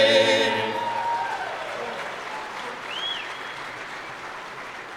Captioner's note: audience applauding; applause